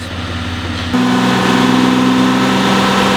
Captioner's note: engine revs